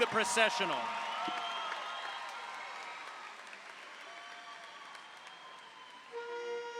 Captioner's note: audience applauds; audience cheers